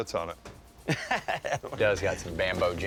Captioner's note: laughs